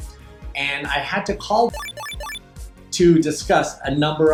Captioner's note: beep